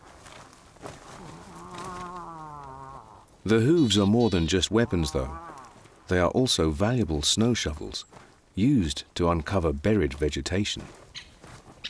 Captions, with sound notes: [moose grunts] The hooves are more than just weapons, though. They are also valuable snow shovels used to uncover buried vegetation.